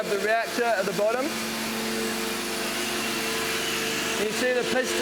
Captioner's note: machine running